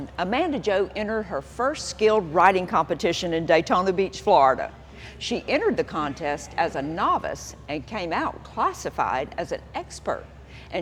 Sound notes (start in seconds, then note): none